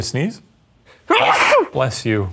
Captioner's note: sneezes